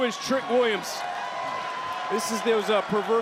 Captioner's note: crowd cheer